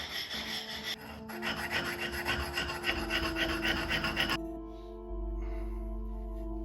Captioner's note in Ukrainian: сміх